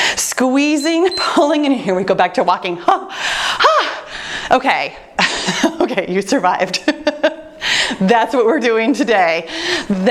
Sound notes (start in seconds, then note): 0.8 timer beeps; 5.4 chuckles